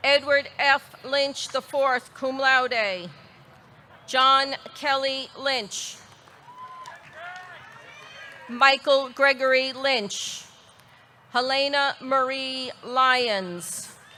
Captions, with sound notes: Edward F. Lynch IV, cum laude. John Kelly Lynch. (audience cheering) (audience clapping) Michael Gregory Lynch. Helena Marie Lyons.